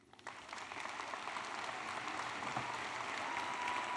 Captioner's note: applause